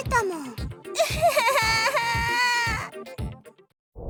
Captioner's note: sob